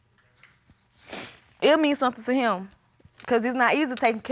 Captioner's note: sniffles